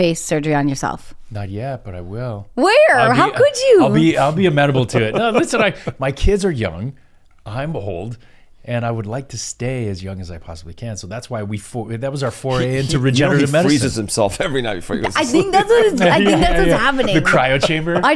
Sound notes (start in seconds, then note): 6.7 laughs; 15.8 laughs